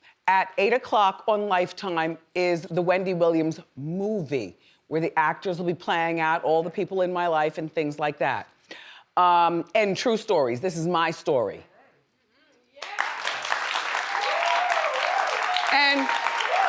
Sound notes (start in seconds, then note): 12.8 audience applauds